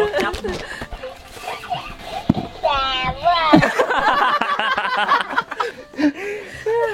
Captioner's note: laughter; voice imitation; laughter